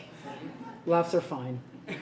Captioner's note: laughs